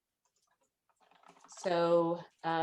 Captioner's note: keyboard keys clicking